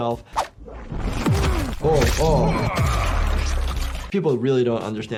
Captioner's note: Omni-Man grunting